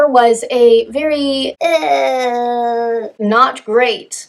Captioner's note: high-pitched voice